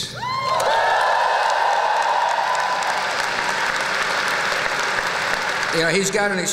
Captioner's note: whoop!; applause